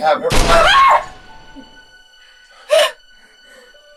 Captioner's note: Kathryn screams; distant thud